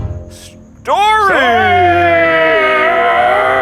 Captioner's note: grunting